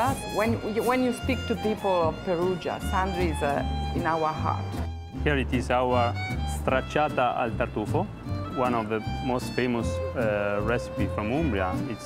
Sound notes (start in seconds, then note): 0.0 with Italian accent; 5.4 with Italian accent